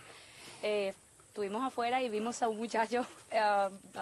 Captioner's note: she speaks spanish